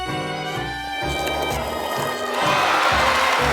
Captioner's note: cheers